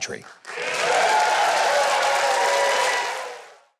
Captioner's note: audience applause